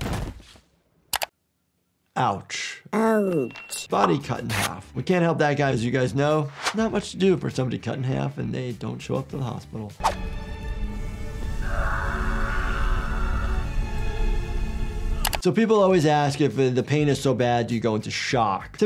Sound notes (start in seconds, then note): 0.1 thudding; 10.0 dramatic music; 11.5 screaming